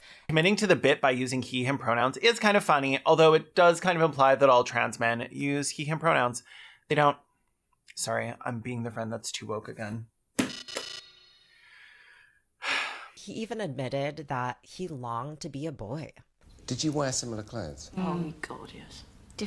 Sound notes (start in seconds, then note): 10.4 buzzer sounds; 12.6 sighs tomboyishly